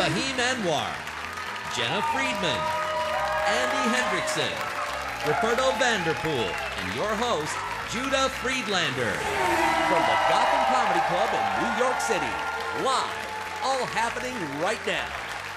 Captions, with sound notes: Fahim Anwar, Jena Friedman, Andy Hendrickson, Ruperto Vanderpool, and your host, Judah Friedlander. (race car zooming) From the Gotham Comedy Club of New York City, live, all happening right now.